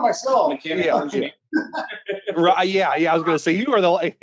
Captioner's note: laughs